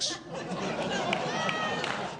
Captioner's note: laughter